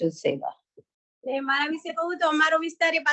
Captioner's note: non-english speech